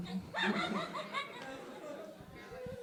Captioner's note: laughter